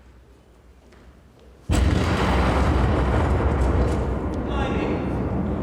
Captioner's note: explosion in the distance